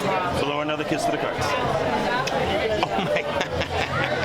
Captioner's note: lips smack; laughs